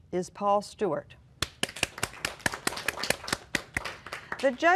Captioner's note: applause